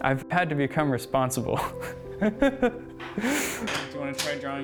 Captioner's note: laughter